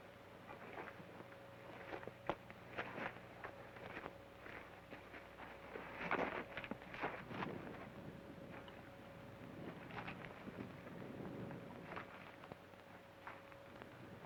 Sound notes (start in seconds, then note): none